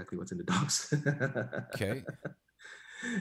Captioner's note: chuckles